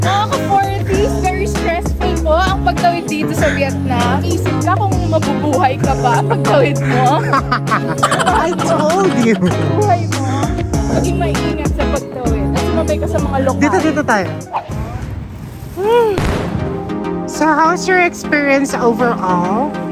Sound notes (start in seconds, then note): 6.8 laughing SFX; 7.4 laughing; 15.7 sigh of exhaustion